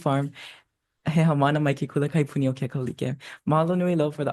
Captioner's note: speaks Hawaiian